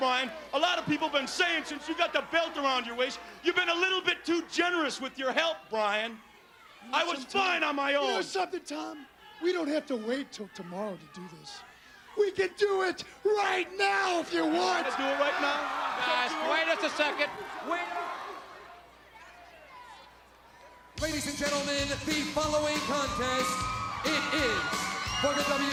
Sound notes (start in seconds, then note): 16.3 crowd cheering; 19.2 crowd chatter